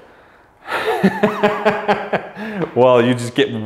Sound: laughs

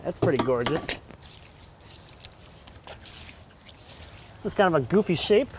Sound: splashing

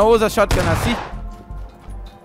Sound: far Shotgun Shot

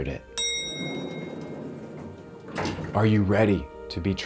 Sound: elevator dings

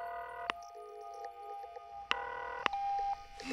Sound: line ringing

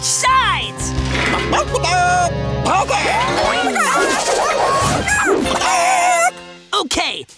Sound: clucking

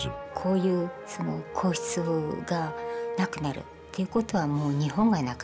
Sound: speaking in foreign language

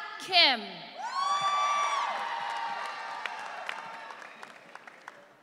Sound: audience cheering

